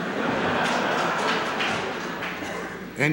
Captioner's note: laughter